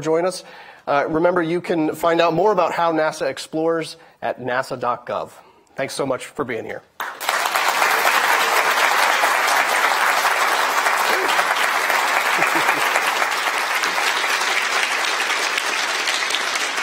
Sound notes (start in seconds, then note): 7.1 attendees applauding